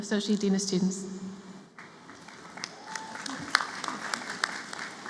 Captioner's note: applause